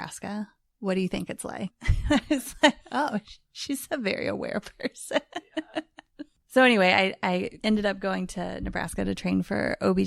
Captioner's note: laughs